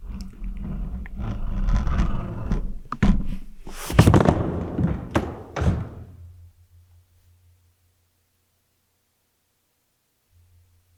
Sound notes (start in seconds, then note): 0.2 camera scraping; 3.6 body thudding